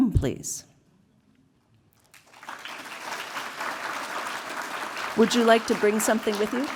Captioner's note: applause